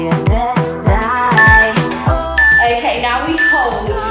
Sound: workout timer beeping

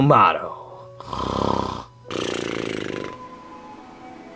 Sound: Luigi snoring; gentle music

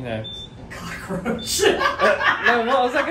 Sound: laughs

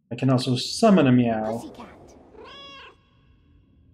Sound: cat meows

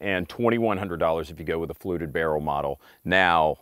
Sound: none

